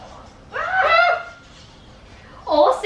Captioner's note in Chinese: 尖叫